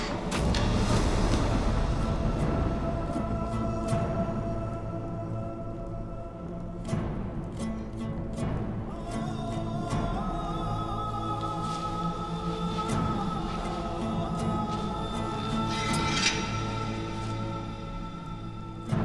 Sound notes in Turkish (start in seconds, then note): 0.1 Gök gürleme efekti; 0.2 Müzik - Gerilim; 15.7 Kılıç sesi